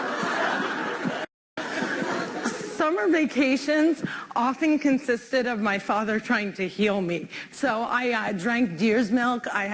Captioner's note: laughter